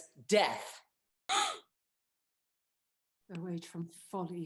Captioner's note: CHARMIAN gasps